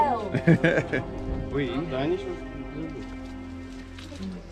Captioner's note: laughing; eerie music